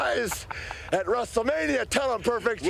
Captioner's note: Curt laughs